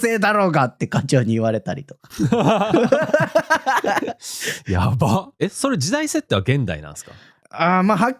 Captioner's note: laughs